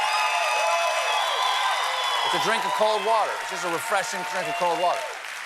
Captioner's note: cheers and applause